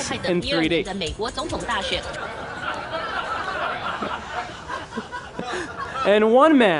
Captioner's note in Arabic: ضحك